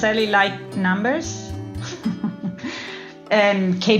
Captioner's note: laugh